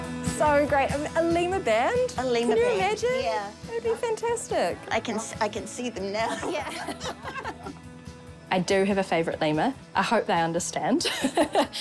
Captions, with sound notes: - So great. A lemur band — can you imagine? - A lemur band, yeah. - That'd be fantastic. - I can— I can see them now. (LAUGHTER) - I do have a favourite lemur. I hope they understand. (LAUGHS)